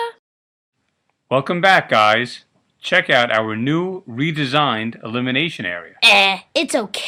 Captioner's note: none